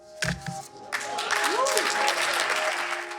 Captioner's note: audience applause